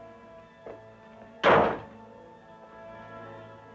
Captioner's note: door closing